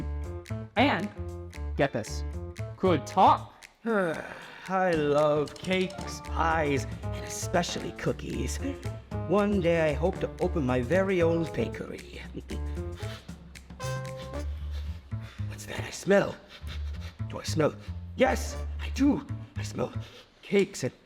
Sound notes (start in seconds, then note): 14.2 upbeat music; 16.4 sniffs